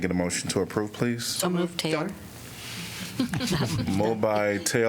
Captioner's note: laughter